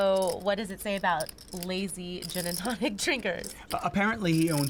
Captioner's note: laughs